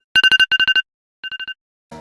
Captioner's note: alarm